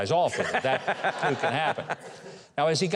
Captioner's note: laughs